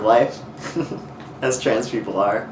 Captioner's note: laughs